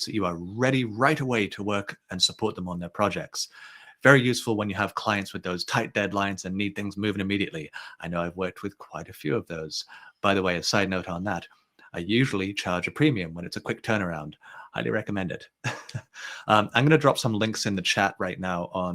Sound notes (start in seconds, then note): 15.6 chuckles